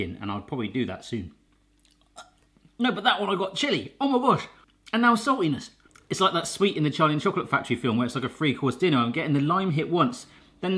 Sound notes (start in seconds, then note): 2.0 gags